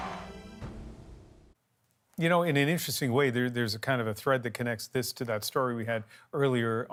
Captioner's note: cheers and Applause